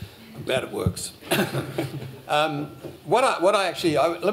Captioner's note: laughter